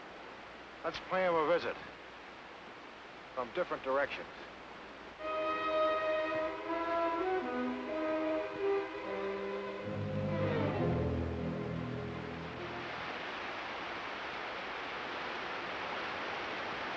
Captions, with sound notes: Let's pay him a visit from different directions. (dramatic music) (water rushing)